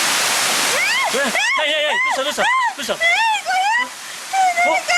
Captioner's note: scream